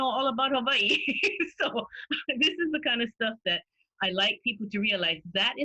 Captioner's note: laughter